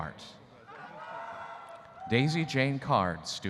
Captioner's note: audience cheering